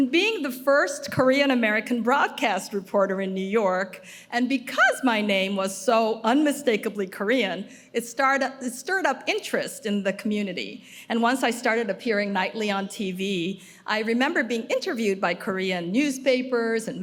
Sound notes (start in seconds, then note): none